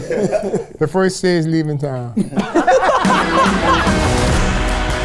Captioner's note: musicians laughing; all laughing